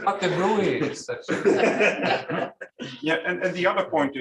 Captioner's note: laughter